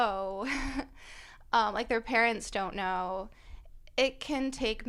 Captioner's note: laughter